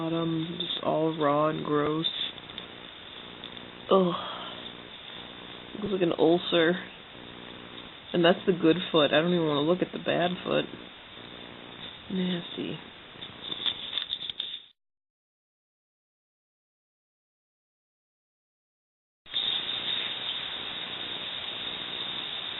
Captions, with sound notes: It's just all raw and gross. Ugh. It looks like an ulcer. And that's the good foot. I don't even want to look at the bad foot. Nasty. [leaves rustling]